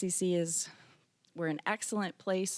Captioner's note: none